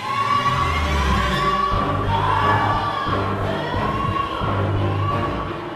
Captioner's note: baby screaming intensifies